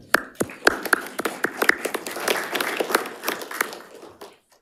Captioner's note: group applauds